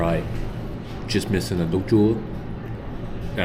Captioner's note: speaking Vietnamese